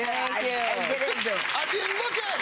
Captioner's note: audience applauding